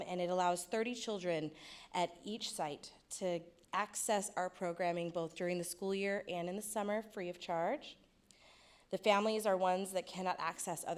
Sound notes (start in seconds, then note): none